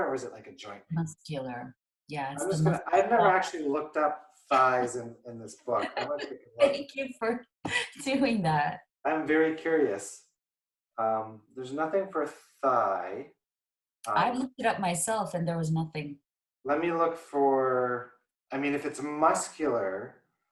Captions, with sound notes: or is it like a joint pain? - Muscular, yes muscular - I've never actually looked up thighs in this book. (laughing) - Thank you for doing that. - I'm very curious. There's nothing for thigh - I've looked it up myself and there was nothing. - Let me look for, I mean, if it's muscular